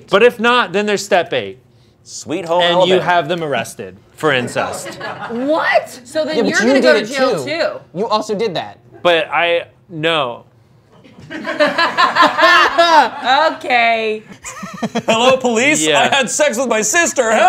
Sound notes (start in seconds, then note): 11.0 group laughing